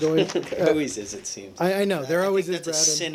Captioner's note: laughter